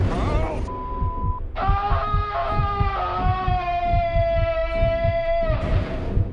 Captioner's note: all screaming